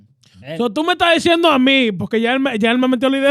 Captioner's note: speaking In Foreign Language